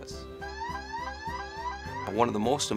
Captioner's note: siren blares